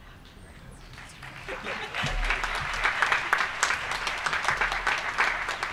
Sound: applause

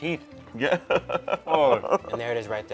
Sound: laughs

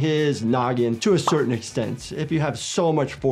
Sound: graphic pops

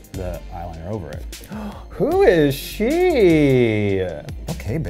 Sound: gasps

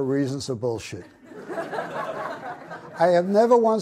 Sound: audience laughs

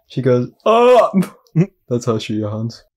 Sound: chuckles

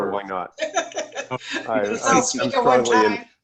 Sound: laughter

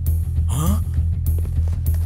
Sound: gasps

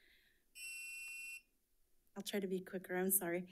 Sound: timer sounding

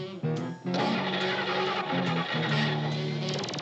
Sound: engine falters

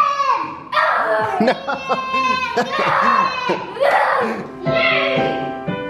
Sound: growls; laughs; light piano music

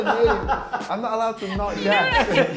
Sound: laughing

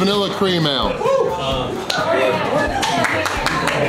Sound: crowd; cheering

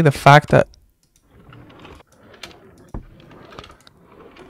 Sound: drawers sliding

